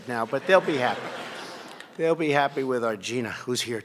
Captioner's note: laughter